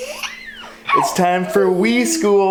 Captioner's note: laughs